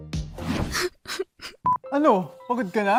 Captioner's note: theme music playing; sobbing